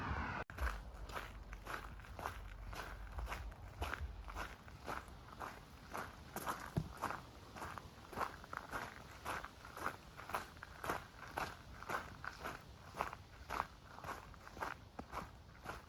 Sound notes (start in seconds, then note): 0.4 footsteps